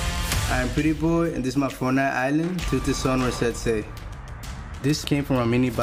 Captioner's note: non-english